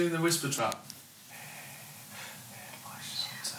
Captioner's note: whispering lyrics